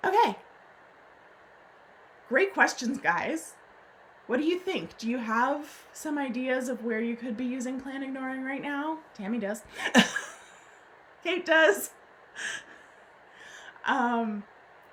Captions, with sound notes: Okay. Great questions guys. What do you think? Do you have some ideas of where you could be using planned ignoring right now? Tammy does. (laughs) Kate does.